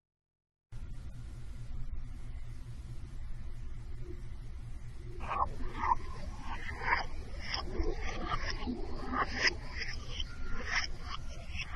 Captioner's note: dark noise